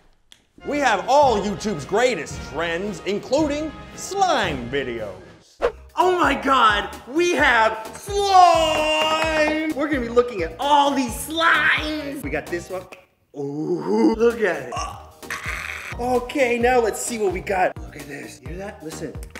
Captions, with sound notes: We have all YouTube's greatest trends including... Oh My God!!! WE HAVE SLIME!!! We're gonna be looking at all these slimes!!! We got this one... OOOOOH.... Look at it. Okay, now let's see what we got. *whispers* Look at this Listen.